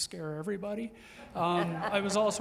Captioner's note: audience members laughing